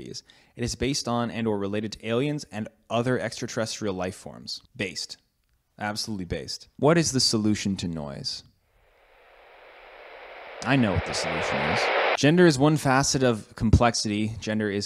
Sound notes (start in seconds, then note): 8.8 static noises